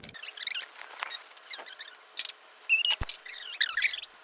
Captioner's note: tape squeaking